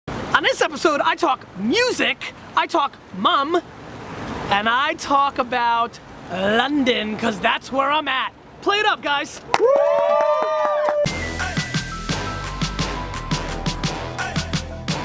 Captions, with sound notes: - On this episode, I talk music, I talk mum, and I talk about London 'cause that's where I'm at. Play it up, guys. (crowd whoos) (theme music)